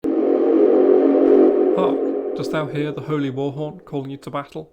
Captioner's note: loud foghorn